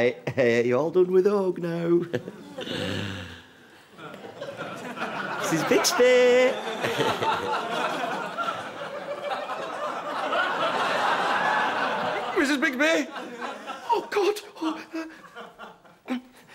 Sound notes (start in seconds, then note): 2.6 he sighs